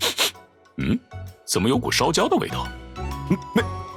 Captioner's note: sniff